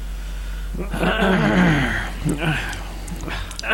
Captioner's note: clearing throat